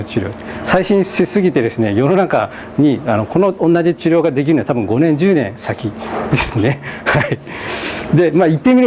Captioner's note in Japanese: 笑い